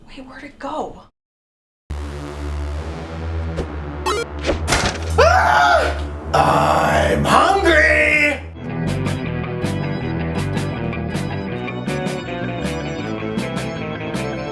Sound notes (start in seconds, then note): 4.0 creepy music; 4.0 Minecraft ding; 5.1 screams; 8.9 upbeat spooky music